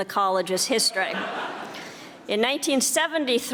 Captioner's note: audience laughing